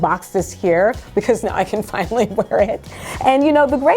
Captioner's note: laughs